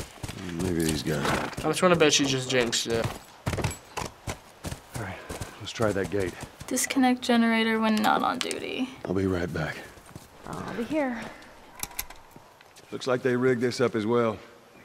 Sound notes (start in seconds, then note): 3.0 hoofbeats; 11.5 click